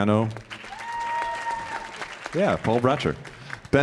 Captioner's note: audience applauding and cheering